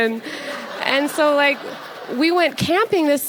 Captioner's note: audience laughs